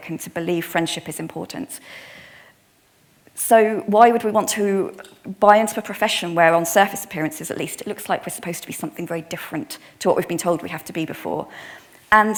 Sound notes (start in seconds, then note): none